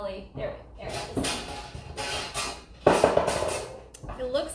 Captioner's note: metal clanging